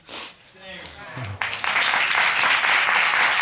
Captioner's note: audience applauding